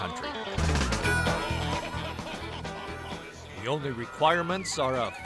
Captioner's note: man laughing